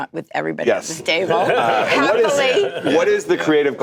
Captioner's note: laughter